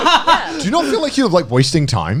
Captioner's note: laughing